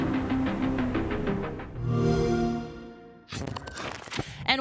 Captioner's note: xbox sound